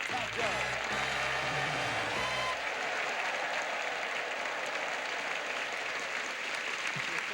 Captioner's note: audience applauding